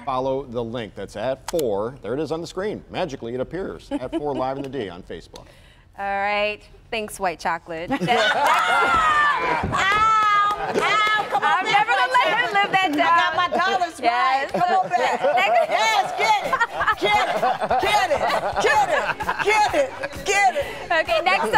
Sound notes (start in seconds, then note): 16.1 laughter